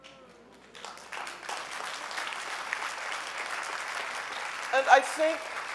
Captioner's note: audience applauding